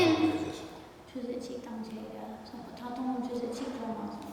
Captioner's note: speaking tibetan; speaking tibetan